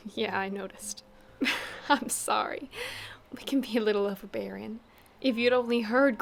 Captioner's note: laughing